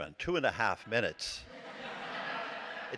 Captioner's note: laughter